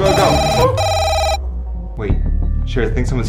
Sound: alarm rings

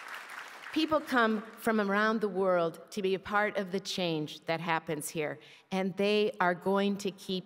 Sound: applause

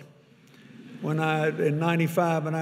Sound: audience laughing

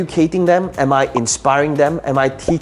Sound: bubble popping

